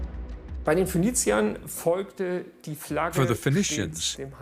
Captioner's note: speaks in foreign language